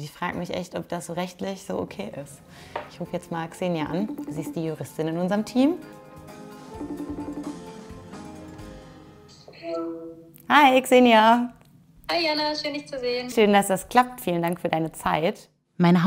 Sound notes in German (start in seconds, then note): 6.8 Freizeichen; 7.8 Unruhige Musik